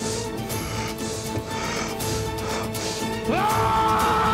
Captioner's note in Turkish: Nefes sesi